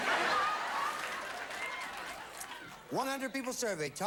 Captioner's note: audience laughing